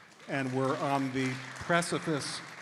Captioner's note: audience applauding